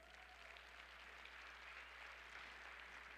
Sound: applause

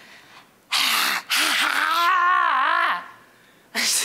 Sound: exhaling loudly

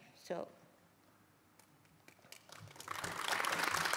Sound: applause

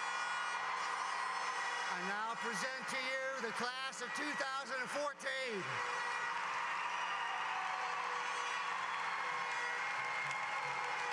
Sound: cheers and applause

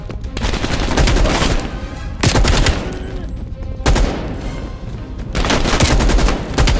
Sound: gunshots

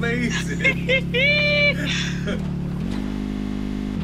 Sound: giggles along; high-pitched giggle

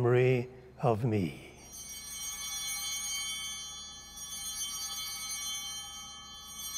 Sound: bells ringing

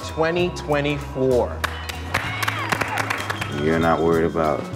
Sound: applause

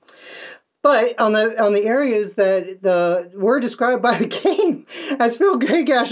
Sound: laughing

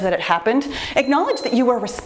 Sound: timer beeps

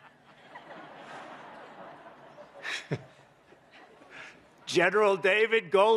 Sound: laughter

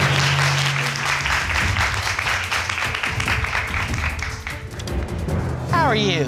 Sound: crowd clapping

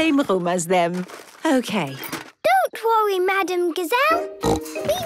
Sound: snorting

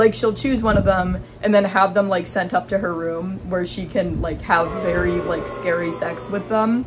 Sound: booing

